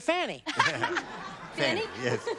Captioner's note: laughs